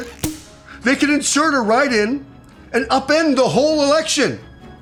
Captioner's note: radio